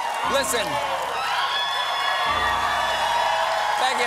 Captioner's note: cheers and applause